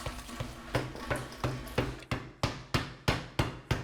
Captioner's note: mallet thuds